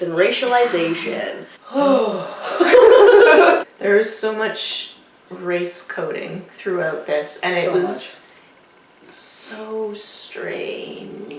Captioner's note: collective sigh